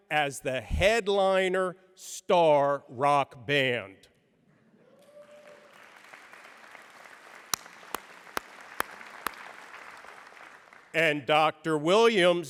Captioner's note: applause